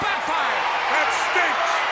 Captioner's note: audience cheers